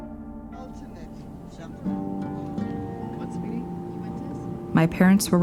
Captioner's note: chatter